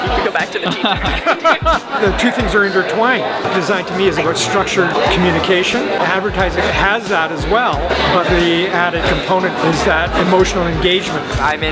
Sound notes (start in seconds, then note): 0.0 laughs